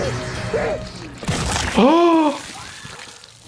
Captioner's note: tense music; victim yelling; Jordan gasping; body tearing; victim screaming